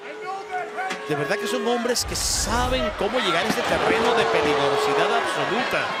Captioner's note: commentator speaking Spanish